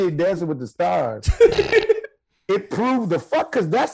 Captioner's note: laughing